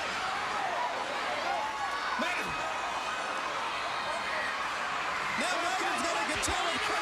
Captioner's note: crowd chatter